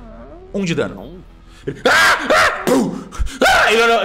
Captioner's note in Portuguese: mais gritos; gritos